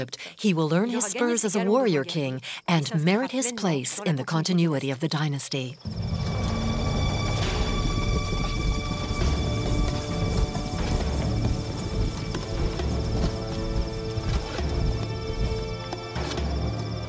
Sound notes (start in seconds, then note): 5.9 dramatic orchestral music; 7.7 horse hooves clopping